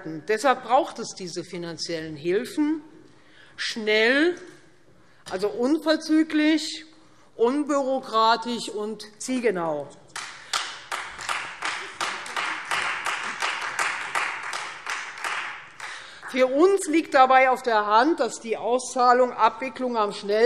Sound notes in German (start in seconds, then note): 10.1 Beifall Freie Demokraten